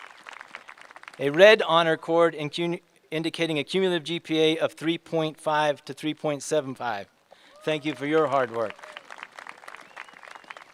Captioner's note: applae